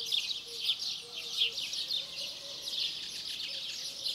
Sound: birds chirping

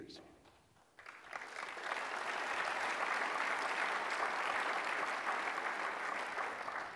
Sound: applause

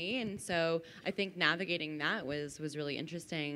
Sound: none

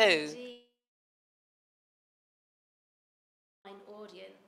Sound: video freezes, no audio

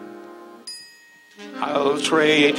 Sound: bell dings

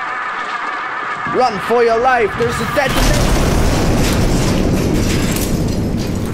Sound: explosion ensues

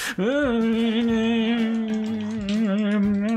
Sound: makes unhappy noises

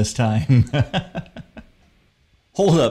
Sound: laughing

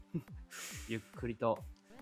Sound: deep breath

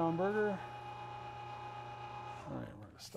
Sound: machine roaring

